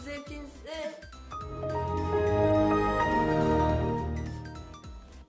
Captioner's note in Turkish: windows xp açılma sesi